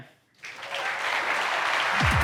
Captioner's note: audience applauding